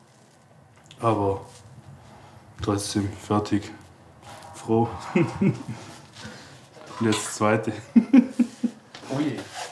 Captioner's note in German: lacht